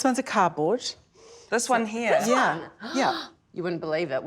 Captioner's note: gasps